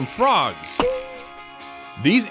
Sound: frog boings

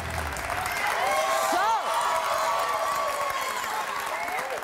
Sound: cheers

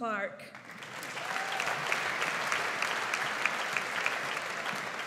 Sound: audience applauds

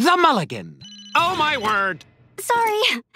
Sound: phone ringing

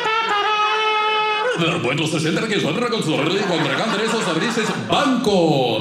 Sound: spanish music; speaking Spanish

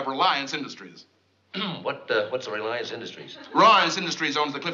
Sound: clears throat

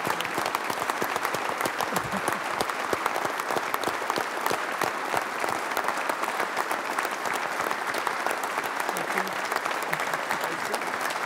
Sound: applause

